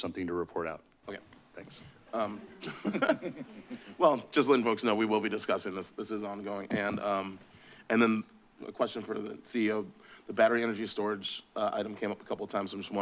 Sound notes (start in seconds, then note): 2.1 chuckles